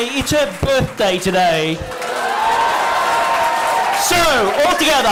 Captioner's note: cheering and applause